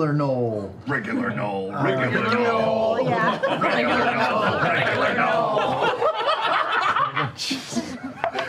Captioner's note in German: Gelächter